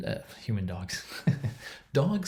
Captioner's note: laughs